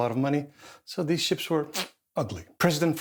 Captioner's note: sucks teeth